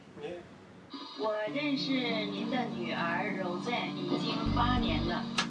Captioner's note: woman on tape Chinese